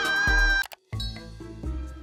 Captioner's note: mouse clicks